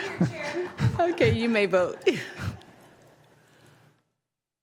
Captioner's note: laughter